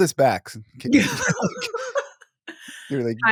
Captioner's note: laughing